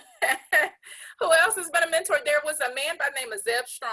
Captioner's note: laughs